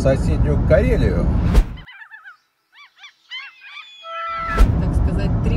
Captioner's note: cry of seagulls